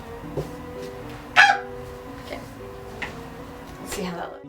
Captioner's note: surprise Screech